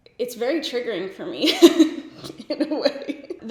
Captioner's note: laughs